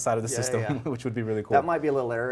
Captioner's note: chuckles